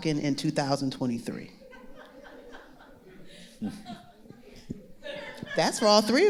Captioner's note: audience laughing